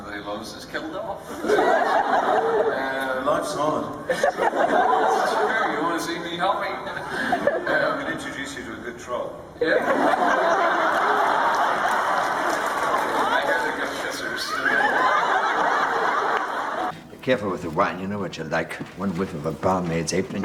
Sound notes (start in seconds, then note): 1.2 crowd laughs; 10.6 crowd laughs; 14.3 everyone laughs